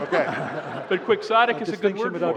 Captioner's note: laughter